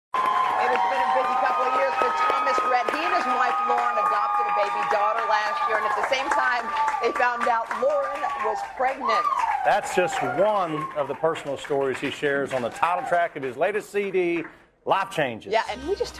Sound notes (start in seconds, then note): 2.3 applause